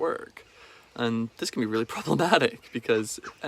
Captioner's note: laughs